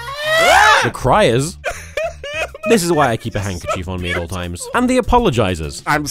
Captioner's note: screaming; sobbing uncontrollably